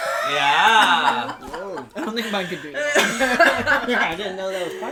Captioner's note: laughs